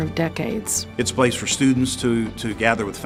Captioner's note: voiceover